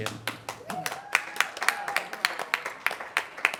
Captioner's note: applause